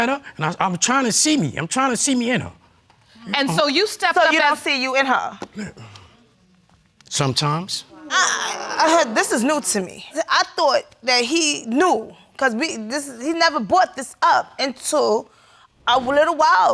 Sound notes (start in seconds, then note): 7.9 audience sighs